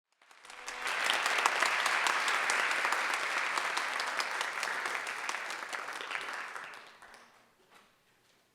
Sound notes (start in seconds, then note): 0.1 audience clapping